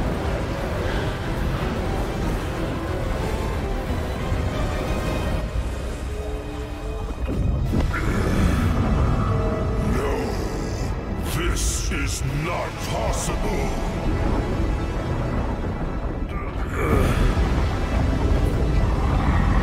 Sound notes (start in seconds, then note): 10.5 groans; 17.4 grunts